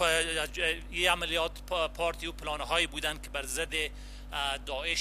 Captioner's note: translator speaking in foreign language